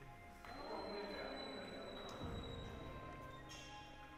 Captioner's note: doors shutting